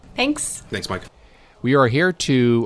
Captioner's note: voiceover